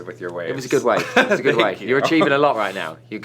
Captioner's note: laughter